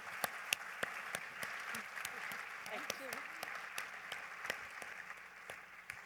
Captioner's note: applause